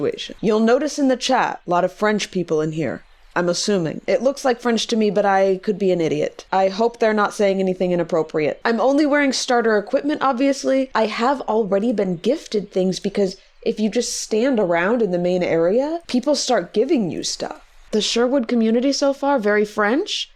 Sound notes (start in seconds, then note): none